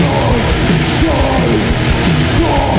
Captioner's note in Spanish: Perturbada